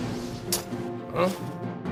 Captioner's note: sound of magnet ductaped to a mirror